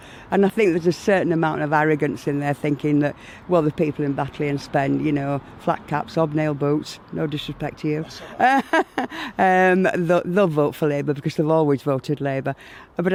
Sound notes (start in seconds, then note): 8.0 laughs